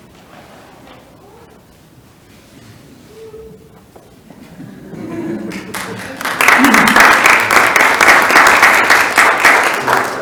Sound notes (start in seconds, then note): 4.4 audience chuckles; 5.0 audience applauds